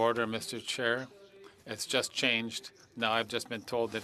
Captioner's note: speaking French